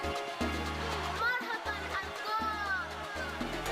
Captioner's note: speaking in Foreign Language